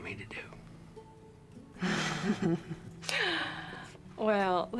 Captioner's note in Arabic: ضحكة مكتومة